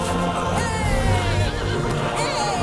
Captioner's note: boy cheers